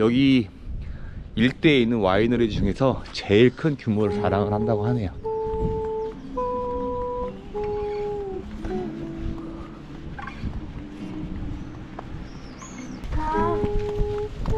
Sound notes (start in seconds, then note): 7.4 humming